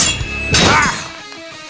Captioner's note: grunt